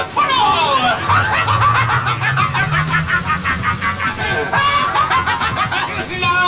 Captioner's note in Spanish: Se Ríe